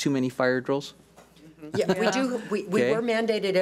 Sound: agreeing murmurs

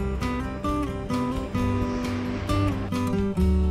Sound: heavy machinery running

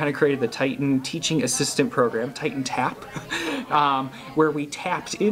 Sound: chuckles

